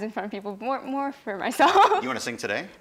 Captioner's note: laughs